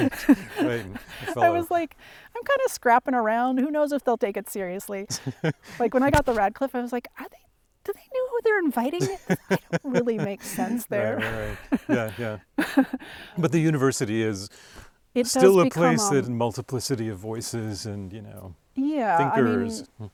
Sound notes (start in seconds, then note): 0.0 both laughing; 9.0 laughing; 12.6 laughs